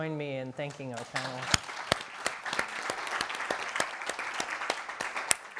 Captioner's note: everyone applauding